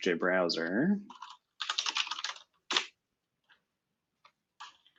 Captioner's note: typing